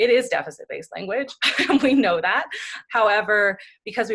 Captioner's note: laughs